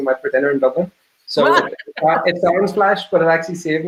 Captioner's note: laughing